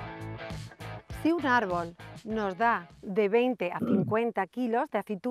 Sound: speaks in Spanish

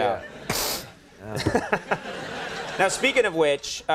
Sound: laughing

